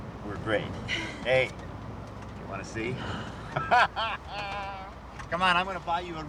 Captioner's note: laughs